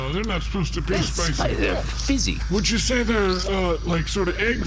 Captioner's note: sips